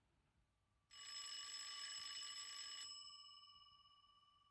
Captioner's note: phone Ringing